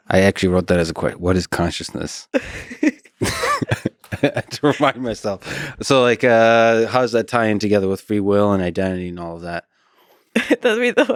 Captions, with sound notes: I actually wrote that as a quote, what is consciousness? (both chuckling) To remind myself? So like how's that tie in together with free will and identity and all of that.